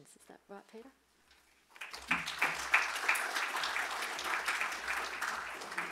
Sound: audience applauds

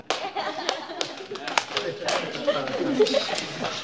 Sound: group cheers

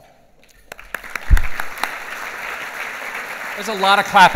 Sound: clapping

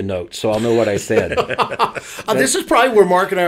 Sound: laughing

